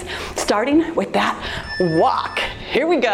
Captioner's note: timer beeps